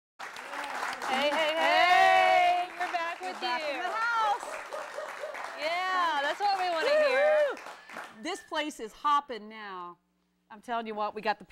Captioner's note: cheers